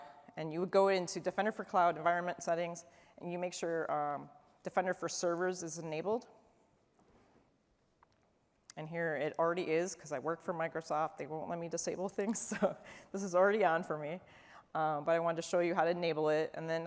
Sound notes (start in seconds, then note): 12.4 laughter